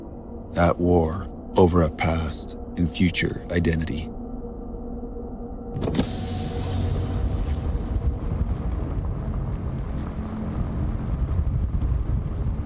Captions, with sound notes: at war over a past and future identity. (window whirring down)